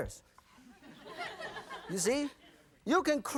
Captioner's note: audience laughing